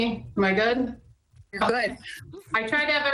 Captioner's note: chuckles